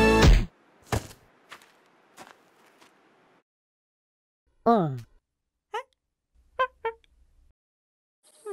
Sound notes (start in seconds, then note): 4.7 monkey chattering